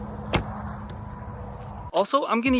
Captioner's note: bow thumps